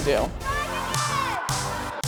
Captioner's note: upbeat music; children cheering